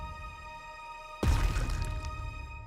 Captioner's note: body drops